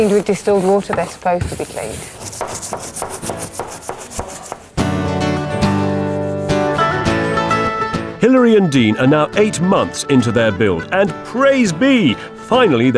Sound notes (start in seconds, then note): 0.0 brush scrubbing; 2.5 brush scrubbing; 4.8 bright upbeat music